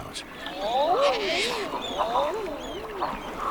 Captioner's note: birds cooing